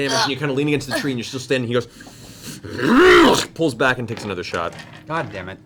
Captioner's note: angry roar